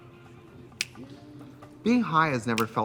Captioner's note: Katya snapping fingers